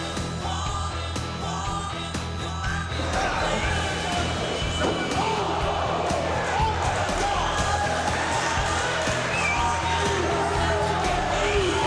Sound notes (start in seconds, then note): 2.8 crowd cheering